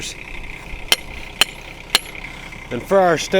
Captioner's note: metal hitting sound